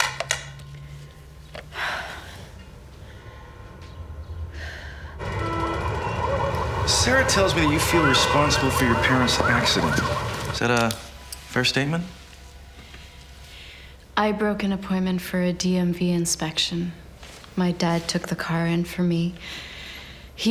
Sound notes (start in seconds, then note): 1.8 sighs